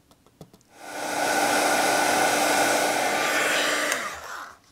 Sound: dryer whirring

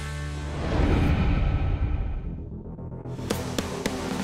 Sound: whooshing; upbeat music

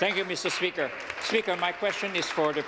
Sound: applause

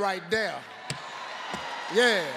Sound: audience cheering

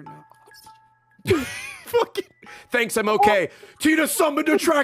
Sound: laughs

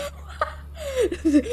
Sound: laughs

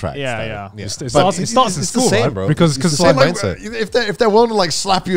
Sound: group chattering

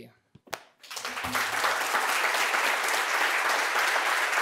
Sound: audience applauding

